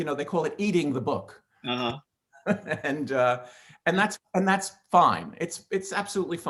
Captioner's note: laughs